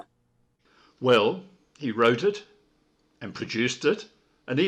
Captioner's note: none